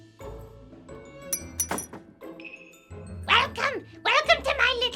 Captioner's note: metal clinks